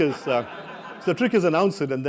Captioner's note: laugh